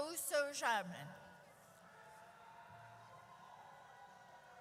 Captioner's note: audience cheers